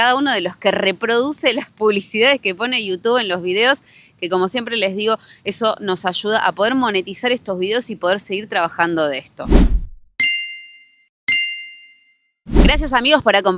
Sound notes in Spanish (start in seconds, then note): 11.3 campana